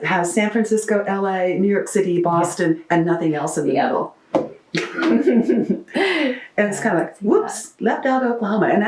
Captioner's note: laughter